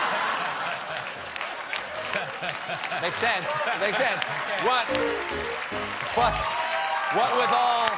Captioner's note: laughter